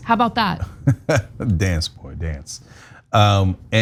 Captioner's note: laugh